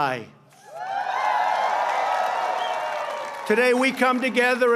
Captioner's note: applause